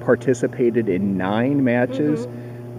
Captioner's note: Arabic; Vietnamese